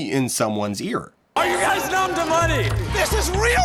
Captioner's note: screaming louder; screaming